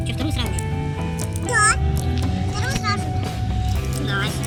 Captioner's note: speak in a funny voice; say in a funny voice